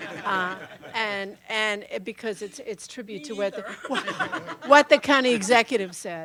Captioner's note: laughter